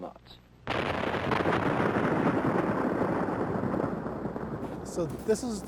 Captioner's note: explosives blasting